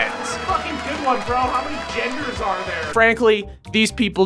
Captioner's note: muffled shouting over applause and sitcom music